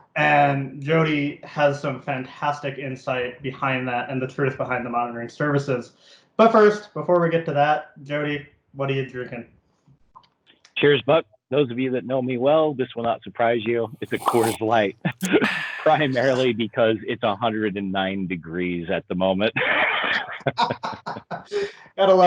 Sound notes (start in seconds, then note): 15.2 giggles; 19.6 both laughing